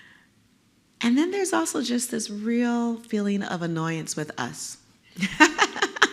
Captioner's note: laugh